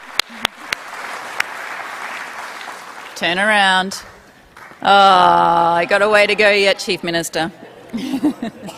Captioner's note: applause